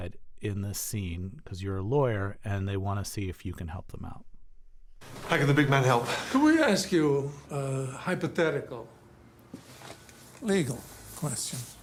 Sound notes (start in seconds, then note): 5.1 soundbite of tv show, "the outlaws"